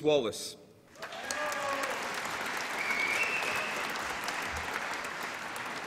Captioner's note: applause and cheering